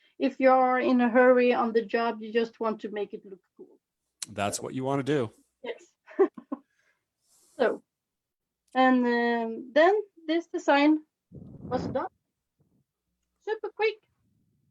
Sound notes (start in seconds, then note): 7.6 chuckles